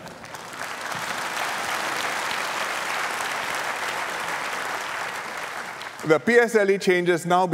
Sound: laughter and applause

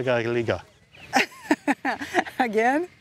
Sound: laughs

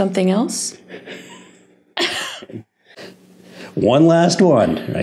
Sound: chuckling

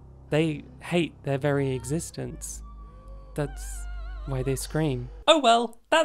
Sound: muffled screams

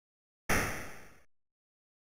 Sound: gun shot

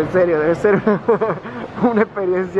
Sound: creepy chuckles

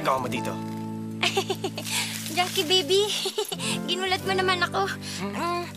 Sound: chuckles

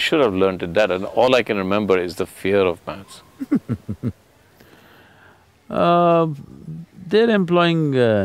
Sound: Sadhguru Laughs

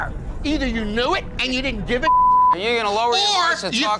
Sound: beep

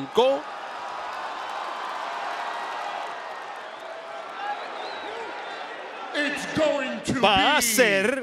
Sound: applause

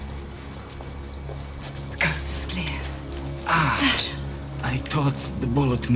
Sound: groans

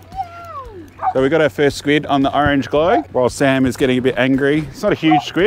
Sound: dog barking

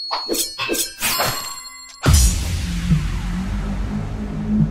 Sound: dramatic swooshing

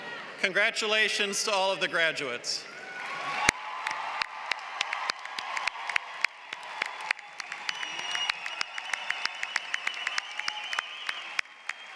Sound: applause

